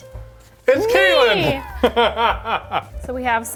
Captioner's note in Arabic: يضحك